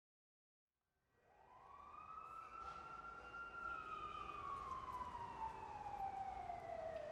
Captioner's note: sirens and traffic in the distance